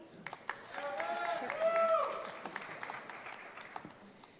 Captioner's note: audience applauds